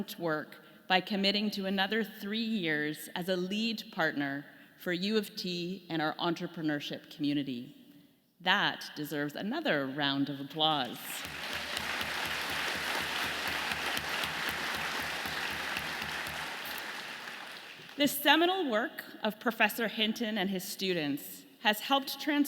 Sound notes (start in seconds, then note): 10.9 audience clapping